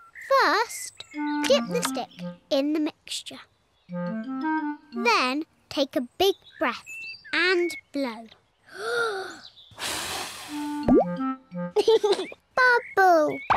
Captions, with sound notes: First, get the stick in the mixture. Then, take a big breath and blow. (TAKES BIG BREATH AND BLOWS) (LAUGHS) Bubble!